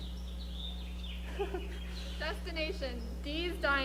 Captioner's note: chuckles